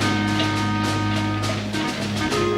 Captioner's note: Aplausos